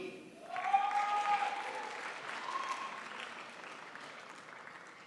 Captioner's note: crowd applauds